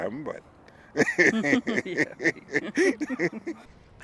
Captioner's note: chuckling